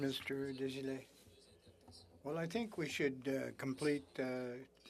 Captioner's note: speaking French